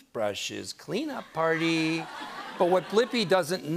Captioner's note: laughter